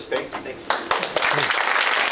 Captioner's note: applause